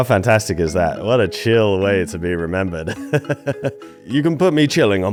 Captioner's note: laughs